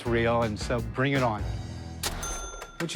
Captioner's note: cash register dings